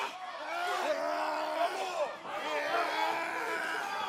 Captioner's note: crowd chatter